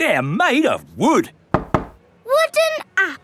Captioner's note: knocks